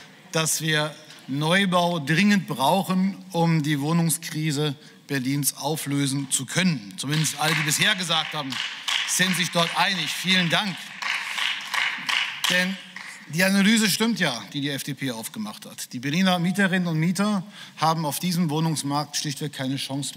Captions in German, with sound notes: dass wir Neubau dringend brauchen, um die Wohnungskrise Berlins auflösen zu können, zumindest alle bisher gesagt haben, sind sich einig. (Beifall) Vielen Dank. Die Analyse stimmt ja, die die FDP aufgemacht hat. Die Berliner Mieterinnen und Mieter haben auf diesem Wohnungsmarkt schlichtweg keine Chance